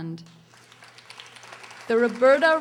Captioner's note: audience applauding